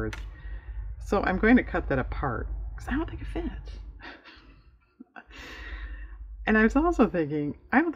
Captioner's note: laughs